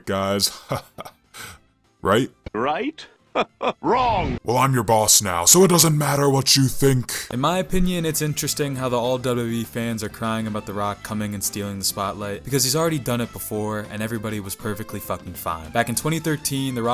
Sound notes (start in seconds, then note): 2.4 Still imitating the Rock